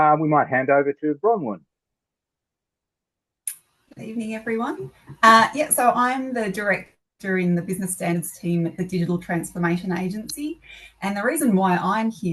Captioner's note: Australian accent